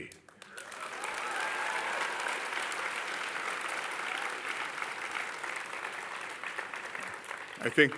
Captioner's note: cheers and applause